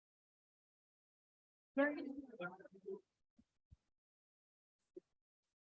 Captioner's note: indistinct chatter